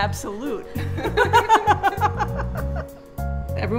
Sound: laughter

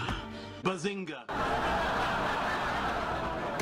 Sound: laugh track intensifies

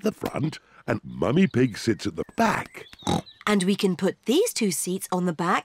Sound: snorts

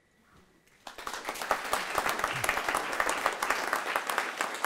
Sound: audience clapping

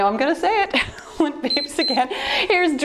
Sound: timer beeps

